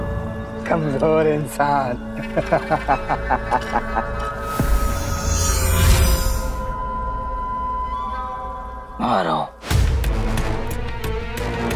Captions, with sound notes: Such a weak human being. [laughing] Hit him!